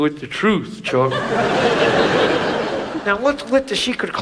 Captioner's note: audience laughs